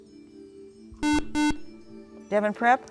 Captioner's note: buzzer